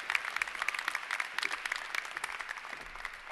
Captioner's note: applause